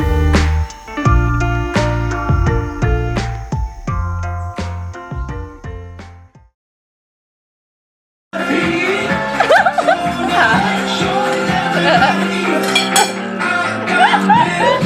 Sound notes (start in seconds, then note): 9.2 laughing